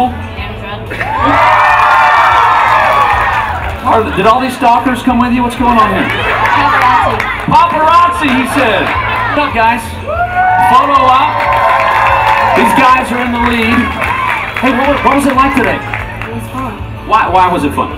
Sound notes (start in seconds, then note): 3.2 great yells and cheers from the audience